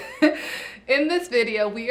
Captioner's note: laughs